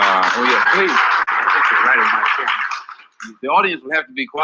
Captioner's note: audience applauding